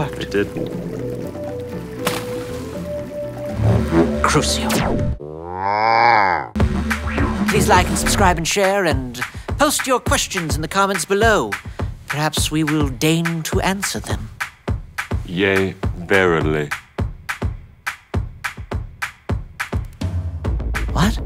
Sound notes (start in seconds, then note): 2.4 splash